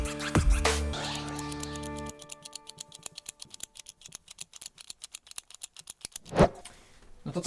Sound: clicker

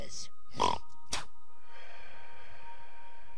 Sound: spits

